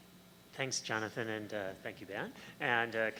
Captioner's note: voiceover